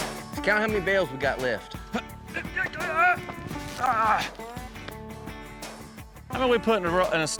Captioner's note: grunting